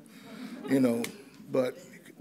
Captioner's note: audience chuckles